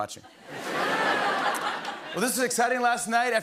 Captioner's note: laughter